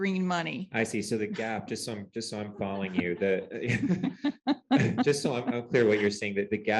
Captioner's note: laughter